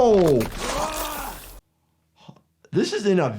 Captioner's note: character yells